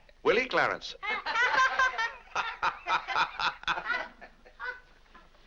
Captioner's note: family laughs